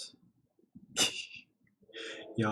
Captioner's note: laughs softly